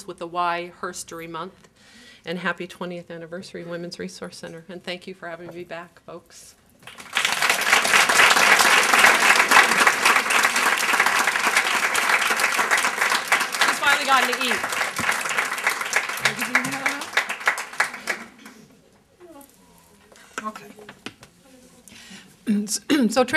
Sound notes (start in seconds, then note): 12.1 applause